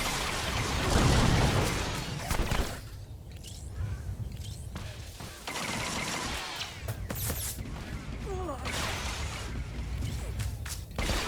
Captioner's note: gun firing